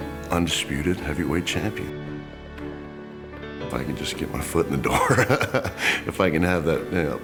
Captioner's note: laugh